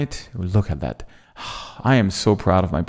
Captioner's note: gasping